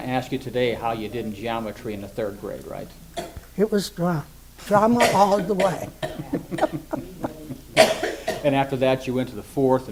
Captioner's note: laughs - coughing in background